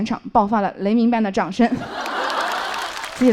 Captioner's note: A thunder-like applause broke out here